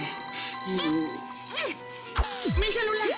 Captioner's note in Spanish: Suena el celular